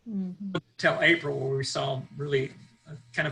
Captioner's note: audio is choppy